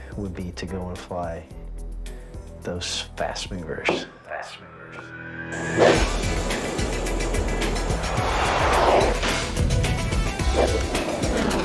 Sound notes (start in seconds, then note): 5.3 jet engine roaring; 8.6 intense music